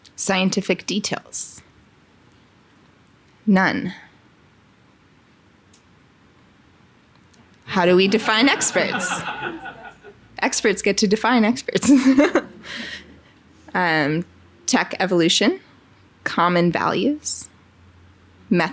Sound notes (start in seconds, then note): 7.7 audience laughing; 11.9 laughing